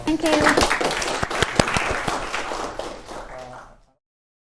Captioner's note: applause